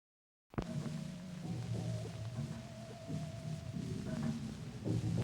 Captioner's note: sci-fi sounds